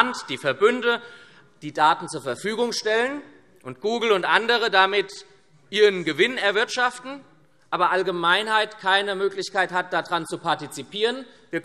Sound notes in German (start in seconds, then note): none